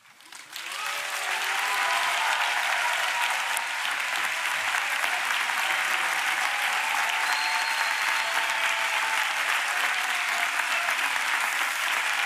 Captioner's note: applause